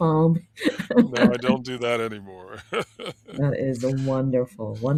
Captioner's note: laughs